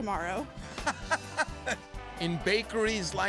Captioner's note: laughing